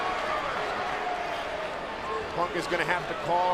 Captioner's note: crowd cheers